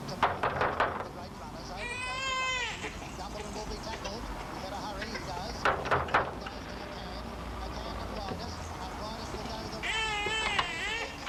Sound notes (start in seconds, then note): 1.7 baby crying